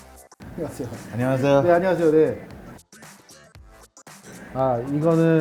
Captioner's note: speaking foreign language